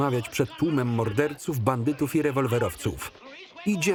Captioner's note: crowd muttering